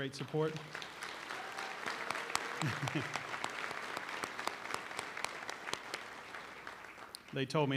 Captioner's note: applause